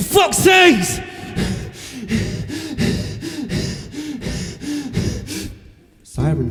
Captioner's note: heavy breathing